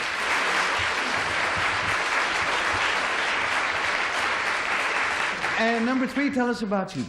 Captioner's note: applause